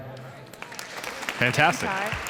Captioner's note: applause